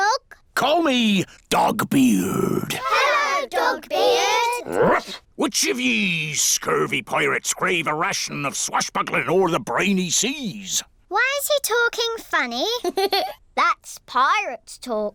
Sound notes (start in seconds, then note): 4.6 barks; 12.8 giggles